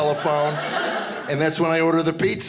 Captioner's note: audience laughing